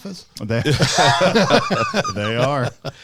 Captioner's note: laughing